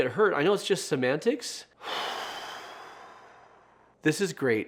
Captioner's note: sighs deeply